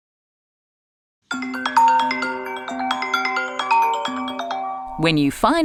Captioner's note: ringtone playing loudly